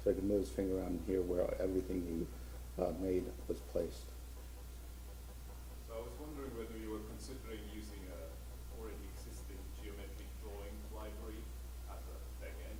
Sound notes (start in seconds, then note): 6.1 voiceover